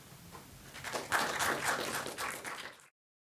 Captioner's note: applause